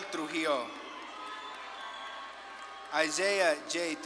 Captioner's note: audience claps and cheers